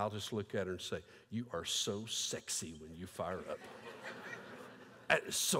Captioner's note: laughter